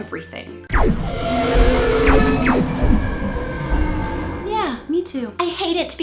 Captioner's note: Laser beam shots, Godzilla roar, thudding footsteps